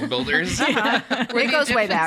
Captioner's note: laugh